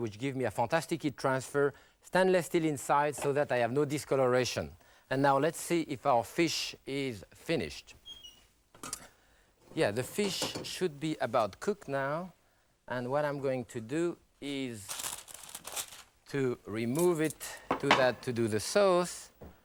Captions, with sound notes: which give me a fantastic heat transfer, stainless steel inside so that I have no discoloration. And now, let's see if our fish is finished. Yeah, the fish should be about cook now. And what I'm going to do is (paper rustles) to remove it to that, to do the sauce.